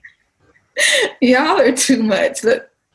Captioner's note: chuckles